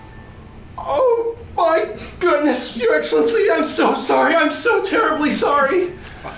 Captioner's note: dramatically